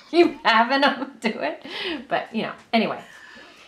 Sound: both laughing

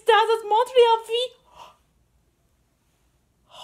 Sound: surprised reaction

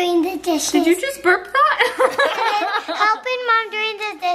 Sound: laughs

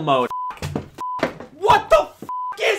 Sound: beep

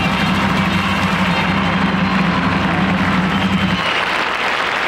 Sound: audience applauding

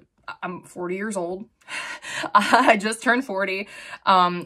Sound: chuckles

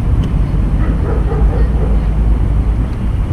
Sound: dog barkings

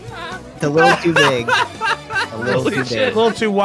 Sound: laughs

